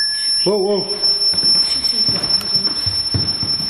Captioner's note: beeping